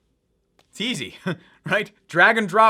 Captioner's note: laughs